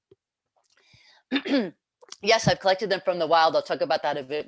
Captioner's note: cough